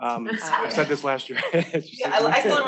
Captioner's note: laughs